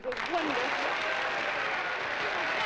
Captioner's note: applause and cheering